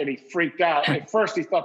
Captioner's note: laughs